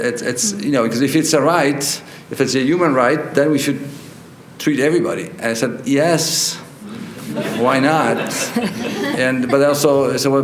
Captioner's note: laughter